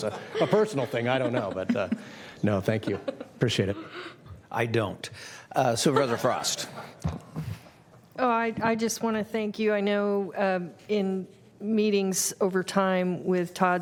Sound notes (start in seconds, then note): 5.8 laughter